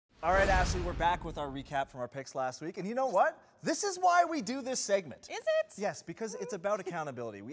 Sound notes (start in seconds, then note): 0.2 logo whoosh